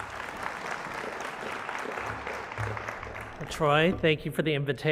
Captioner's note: applause